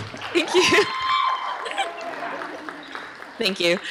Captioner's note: applause